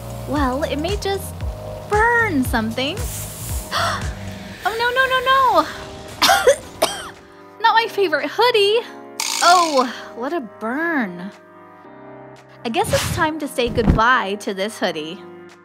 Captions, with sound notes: Well… it may just… burn something… [gasp] Oh no no no!!! [cough cough] Not my favorite hoodie! Oh, what a burn… I guess it’s time to say goodbye to this hoodie…